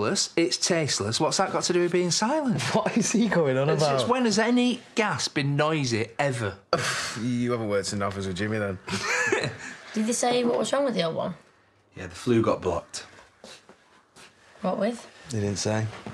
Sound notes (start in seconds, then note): 2.6 laughing; 6.7 scoffs; 8.8 laughs